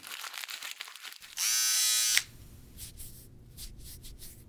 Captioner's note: needle buzzing